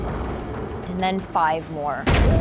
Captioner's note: banging